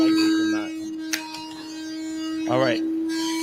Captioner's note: whirring